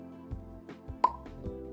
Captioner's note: pop